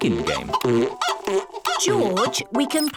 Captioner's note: chicken clucking